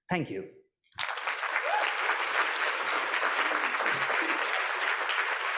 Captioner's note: audience applauding